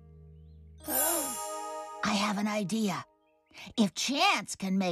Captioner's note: gasps